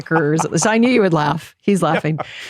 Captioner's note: laughs